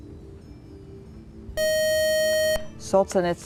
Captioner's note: buzzer